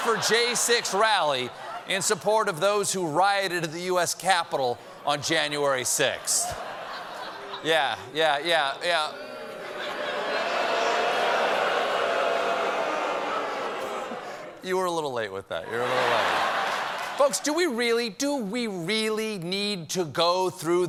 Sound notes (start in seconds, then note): 12.6 booing; 15.7 laughter